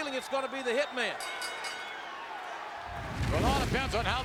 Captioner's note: bell dings